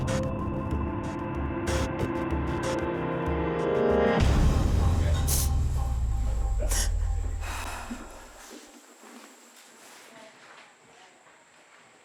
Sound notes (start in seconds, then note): 7.4 crying